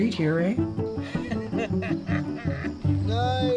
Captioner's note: laughing